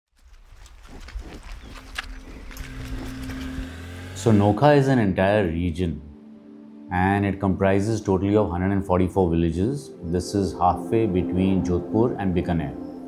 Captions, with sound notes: [Footsteps of a cow] [Distant engine rumble] Nokah is an entire region. And, it comprises totally of 144 villages. This is halfway between Jodhpur and Bikaner.